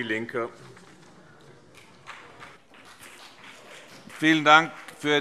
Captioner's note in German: Beifall CDU und BÜNDNIS 90/DIE GRÜNEN